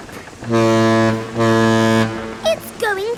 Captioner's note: ship horn blowing